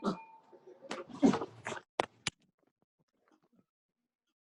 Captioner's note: grunting